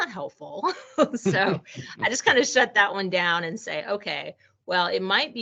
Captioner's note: laughing